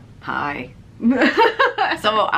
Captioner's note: laughs